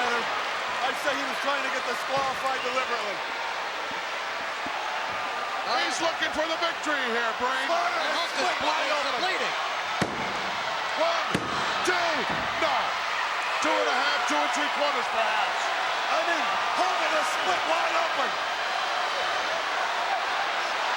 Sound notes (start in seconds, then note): 3.1 crowd yelling; 9.8 referee slapping; 18.2 crowd yelling